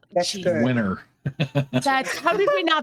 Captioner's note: laughing